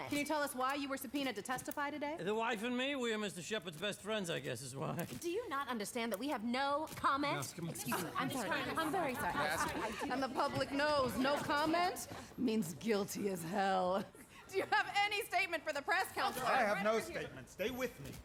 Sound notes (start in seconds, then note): 7.4 scoffs; 8.6 reporters clamoring